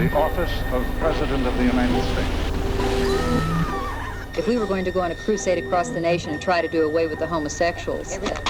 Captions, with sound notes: - The office of President of the United States. (screaming) - If we were going to go on a crusade across the nation to try to do away with the homosexuals.